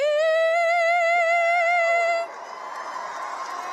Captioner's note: cheers and applause